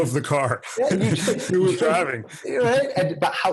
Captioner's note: laugh